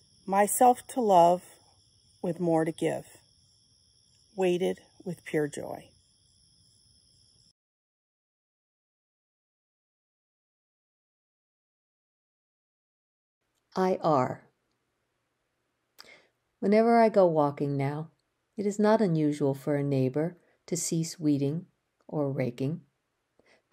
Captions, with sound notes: Myself to love with more to give, weighted with pure joy." (crickets chirping) - "I Are." "Whenever I go walking now, it is not unusual for a neighbor to cease weeding or raking,